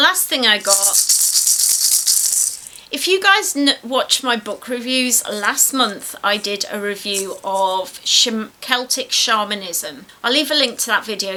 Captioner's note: rattles